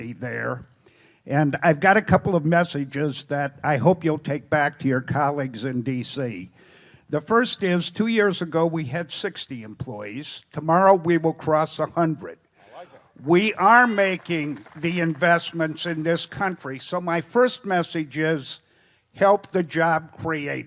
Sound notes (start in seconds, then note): 13.3 applause